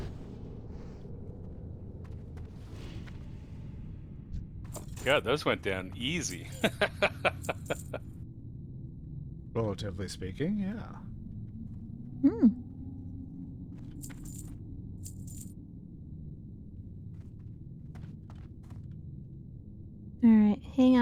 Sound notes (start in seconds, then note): 6.2 laughs